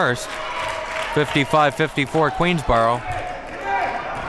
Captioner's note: audience cheering